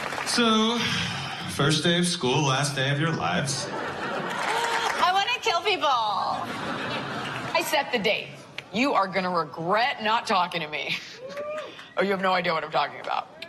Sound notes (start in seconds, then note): 4.3 sporadic laughter; 6.2 laughter